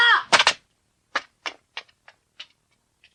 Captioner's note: SFX: footsteps